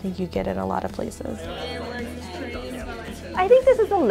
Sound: people talking in background

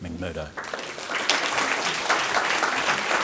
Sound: audience applauding

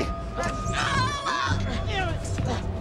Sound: groaning

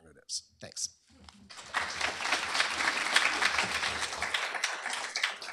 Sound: applause

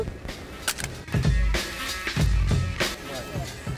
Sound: gun clicks

